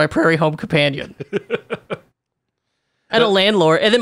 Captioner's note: laughs